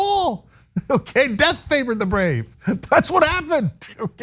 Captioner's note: laugh